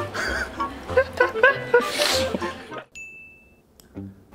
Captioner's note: cracking up